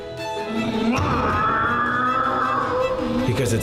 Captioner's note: mimics car engine